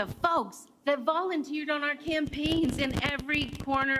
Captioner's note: applause